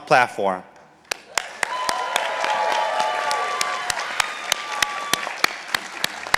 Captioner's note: participants applauding